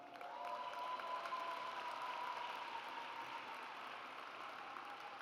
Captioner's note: audience applauds